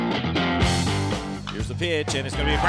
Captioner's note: voiceover